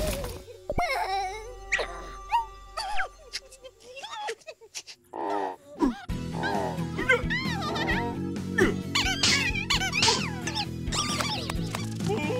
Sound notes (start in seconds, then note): 0.8 whimpers; 2.8 crying; 9.1 slapping